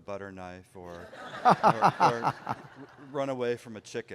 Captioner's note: laughter